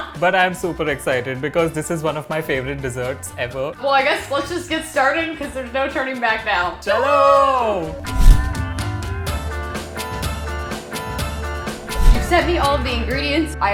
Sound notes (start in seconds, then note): 6.9 both speaking in Hindi; 8.9 upbeat folk music